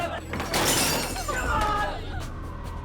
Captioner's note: glass shattering